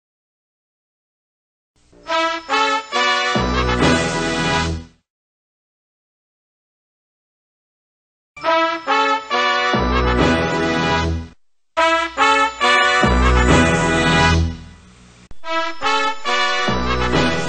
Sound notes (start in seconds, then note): 5.3 silence; 8.4 majestic fanfares resuming